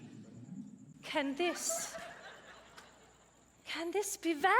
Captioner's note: audience laughs